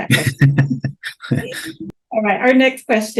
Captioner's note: laughing